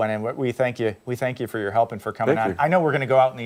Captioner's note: laughter